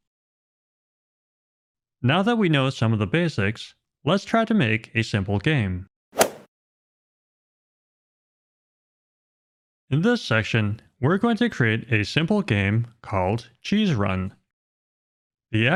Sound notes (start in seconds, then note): 6.1 golf swing sound effect